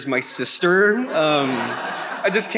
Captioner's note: attendees laughing